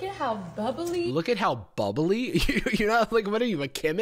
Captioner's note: laughs